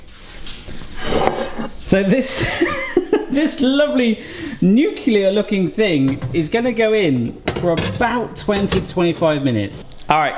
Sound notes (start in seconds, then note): 2.4 laughs